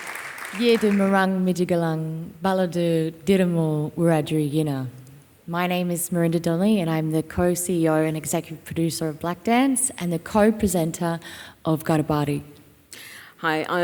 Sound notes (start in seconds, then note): 1.0 speaking Wiradjuri